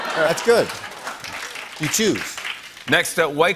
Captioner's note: laughter